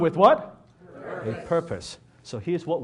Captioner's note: audience Members in unison